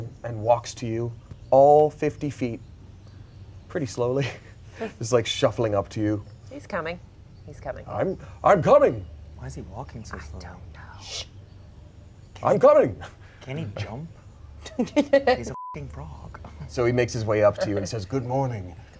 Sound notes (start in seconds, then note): 14.6 laugh; 15.5 beep